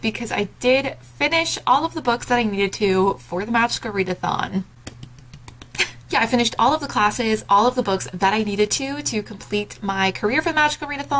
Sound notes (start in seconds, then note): 4.9 claps